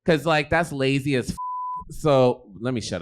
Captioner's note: beep